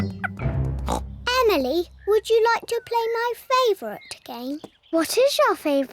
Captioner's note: oinks